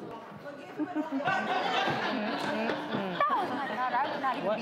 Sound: laughter

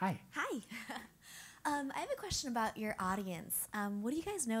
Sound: laugh

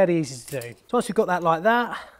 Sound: metal clanks; plies plops

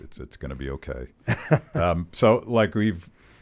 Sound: laughing

